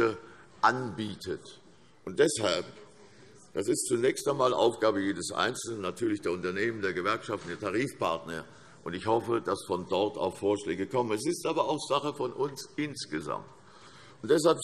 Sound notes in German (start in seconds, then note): none